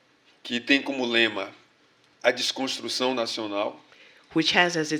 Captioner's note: speaking portuguese